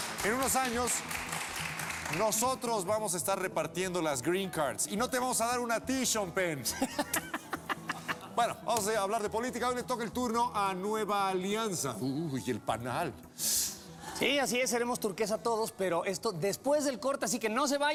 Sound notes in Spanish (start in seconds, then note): 0.0 aplausos; 6.7 josé ramón ríe